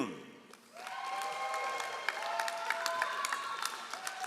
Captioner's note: all applauding